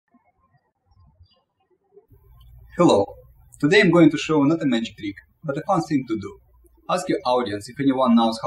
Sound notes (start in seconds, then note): 0.0 birds chirping